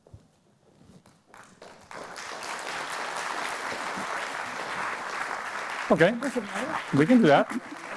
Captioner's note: applause